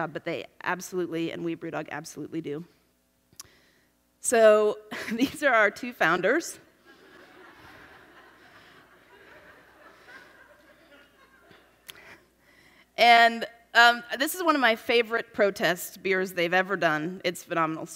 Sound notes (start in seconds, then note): 11.3 laughs